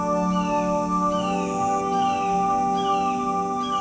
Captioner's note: insects chirping and buzzing; birds cawing